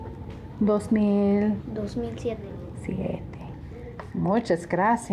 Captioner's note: speaking in a foreign language